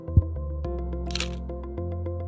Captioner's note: camera snapping; bright music